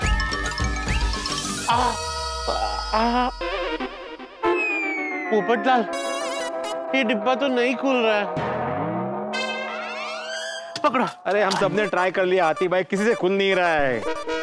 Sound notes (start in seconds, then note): 1.7 yelps